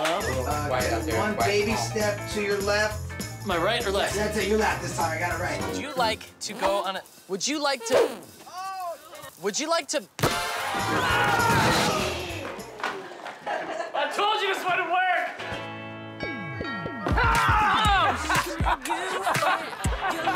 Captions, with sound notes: Uh, one baby step to your left. My right or left? That's it. Your left. This time I got it right. Would you like to go on a- Would you like to- Oh! Would you like to- I told you this wouldn't work. [doorbell ringing] - Ah! - Oh!